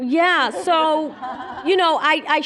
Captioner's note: laughter